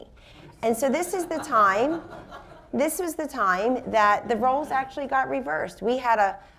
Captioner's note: laughter